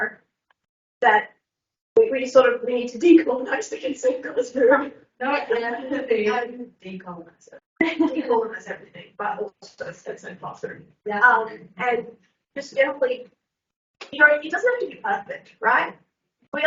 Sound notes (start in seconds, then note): 5.4 all laughing